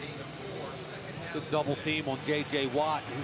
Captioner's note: pa announcement